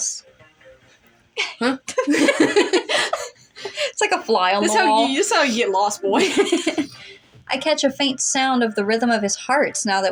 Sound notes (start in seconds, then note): 1.4 both Laugh; 6.1 laugh